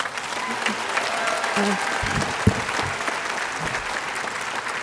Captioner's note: audience applauding